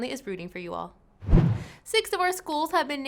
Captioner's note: whooshing